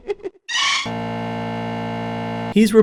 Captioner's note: Tingle laughing; REDEAD SCREAM AGAIN, game crashes